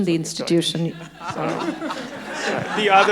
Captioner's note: audience laughing